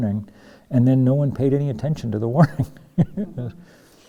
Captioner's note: laughs